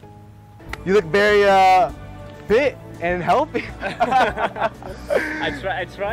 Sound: laughs

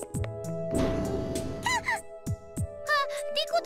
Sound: surprised cry

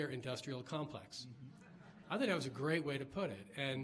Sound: laughs

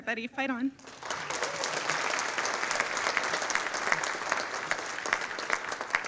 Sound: audience applauding

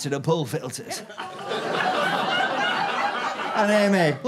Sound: audience groans and laughs

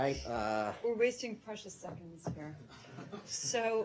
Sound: laughter

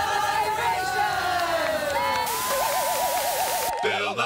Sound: cheers and applause

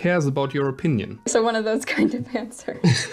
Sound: laughs

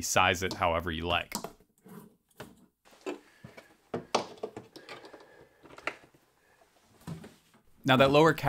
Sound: cable being pushed through opening

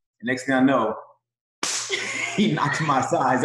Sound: slap

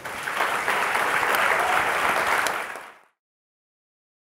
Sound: audience clapping

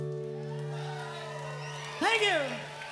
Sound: crowd cheering

